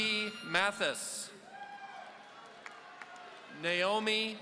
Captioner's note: audience cheering